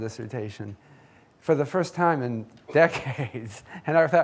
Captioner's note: laughs